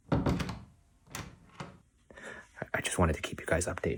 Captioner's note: thump at door